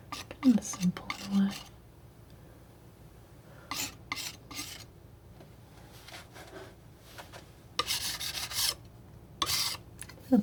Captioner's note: scratching